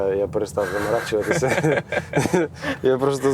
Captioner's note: laugh